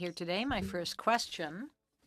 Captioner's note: speaking French